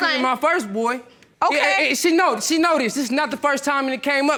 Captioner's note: stammering